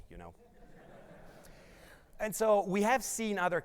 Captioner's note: audience laughs